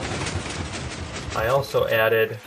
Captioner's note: pistons shifting